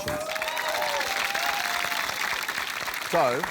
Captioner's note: cheering, applause